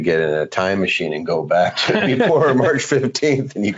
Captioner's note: laughing